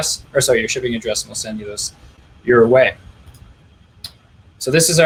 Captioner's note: clicking